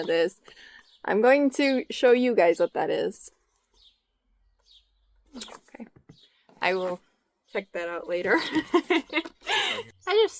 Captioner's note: laughs